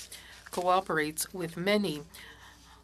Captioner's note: speaking French